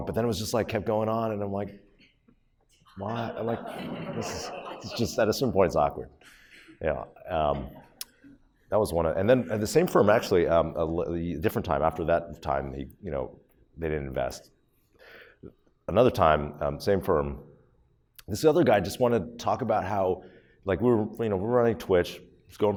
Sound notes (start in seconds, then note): 3.0 audience laughs